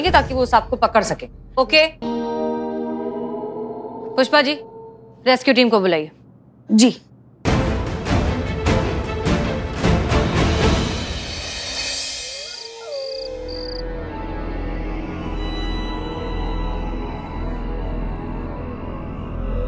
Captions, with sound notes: ...so that they can catch the snake. Okay? Ms. Pushpa, please call the rescue team. Okay. [dramatic music] [crickets chirping]